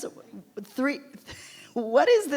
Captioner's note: laughs